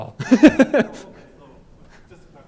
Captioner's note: laughter